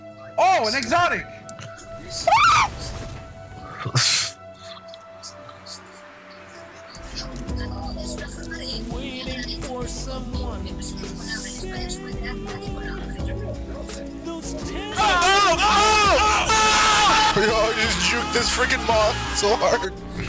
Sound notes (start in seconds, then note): 2.1 makes an elephant trunk noise; 3.8 chuckles